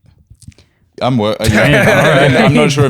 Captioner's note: laughter